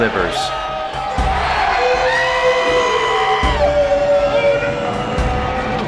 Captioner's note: cheering